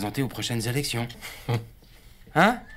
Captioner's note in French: Rires